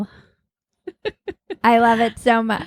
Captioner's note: laughing